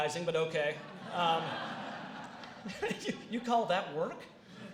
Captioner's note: laughter